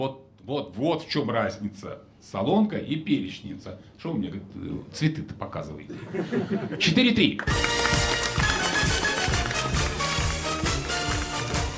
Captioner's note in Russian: смех